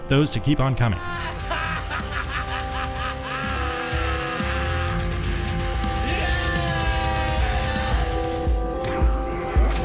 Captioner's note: laughing; screams